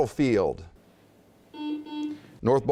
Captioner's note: buzzing